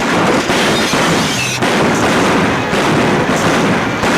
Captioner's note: guns bang